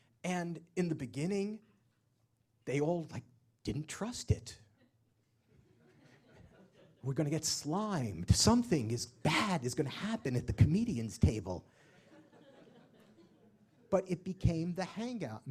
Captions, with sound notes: And in the beginning, they all, like, didn't trust it. We're going to get slimed. Something is bad, is going to happen at the comedian's table. [LAUGH] But it became the hangout.